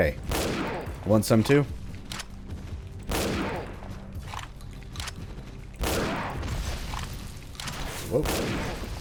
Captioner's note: Junker Musket firing